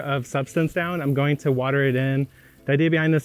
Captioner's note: water spraying